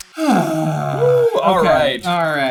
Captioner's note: groans